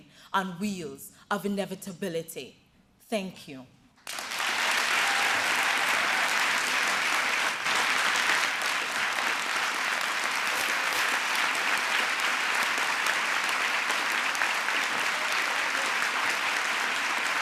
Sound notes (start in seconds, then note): 4.0 applause